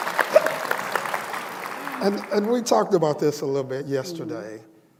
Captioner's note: applause